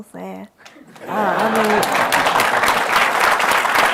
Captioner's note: applause and laughter; applause